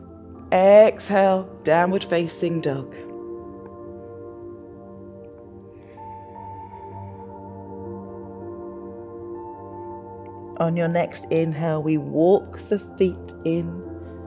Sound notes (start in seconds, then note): 5.7 inhales